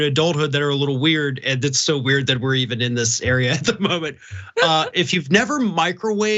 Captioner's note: laugh